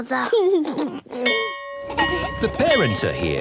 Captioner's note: giggles; bell ringing